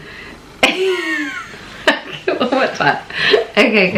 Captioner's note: laughing